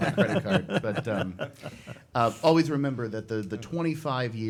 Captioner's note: group laughs